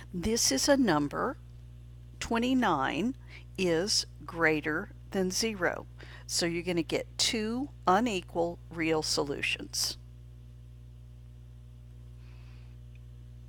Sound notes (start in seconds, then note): 10.2 silent